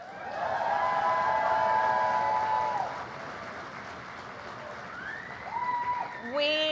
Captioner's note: applause